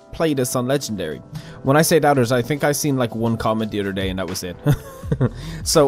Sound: awkward laugh

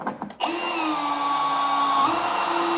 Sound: drilling noise

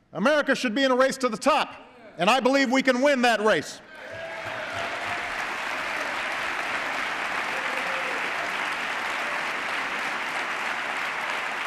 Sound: applause

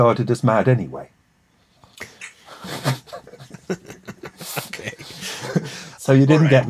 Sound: laughs

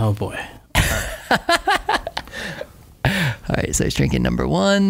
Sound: laughter

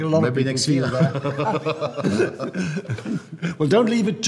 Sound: men laughing

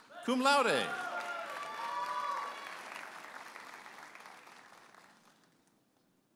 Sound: audience applauding and cheering

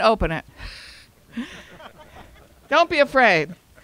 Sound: audience laughing

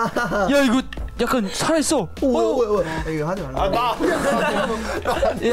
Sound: laughs; speaks in Korean; laughs

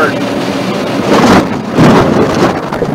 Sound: sound Of Mid-air Collision

